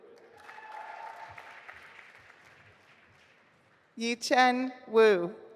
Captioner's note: audience applauding